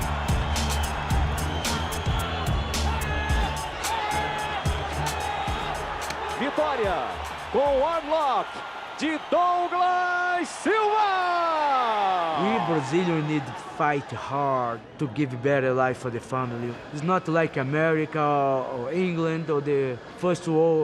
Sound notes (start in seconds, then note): 0.2 crowd cheering; 9.5 announcer speaking Portuguese